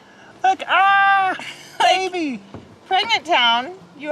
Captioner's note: yells